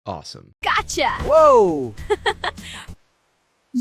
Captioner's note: laughs